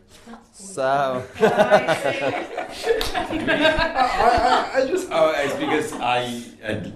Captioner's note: Alex whispers; laughter